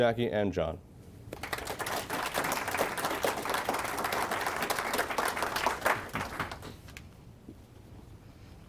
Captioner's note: applause